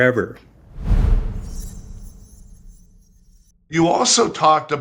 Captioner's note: graphic whooshing